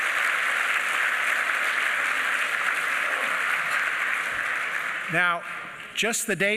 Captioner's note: applause